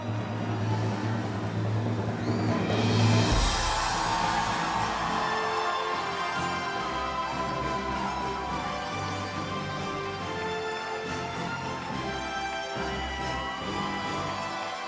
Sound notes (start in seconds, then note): 4.2 cheers and applause